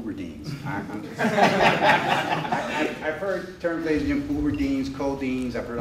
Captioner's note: laughter